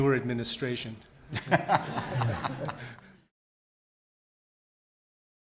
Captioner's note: audience laughs